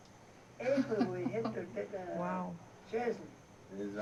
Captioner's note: chuckles